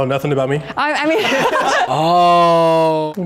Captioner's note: laughing